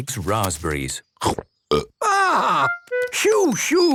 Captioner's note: burps